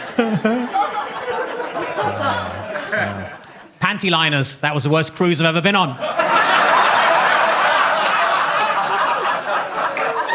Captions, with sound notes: Panty liners, that was the worst cruise I've ever been on. (audience laughs)